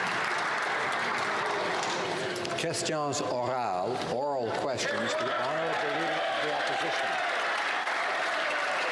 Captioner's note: some Applause